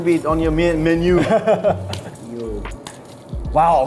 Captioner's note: laughing